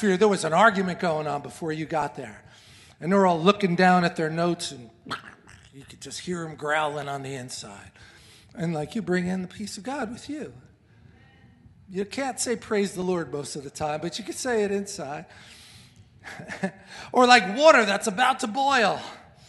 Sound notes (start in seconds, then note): 5.1 grunts